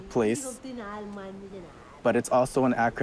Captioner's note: speaks marshallese